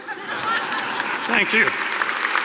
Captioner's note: audience laughing; audience applauding